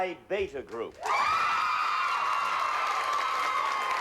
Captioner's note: audience cheers